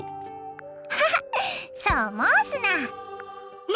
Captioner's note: chuckle